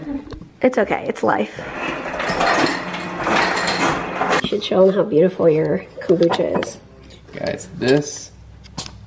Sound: ice maker sound

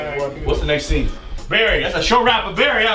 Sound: voiceover

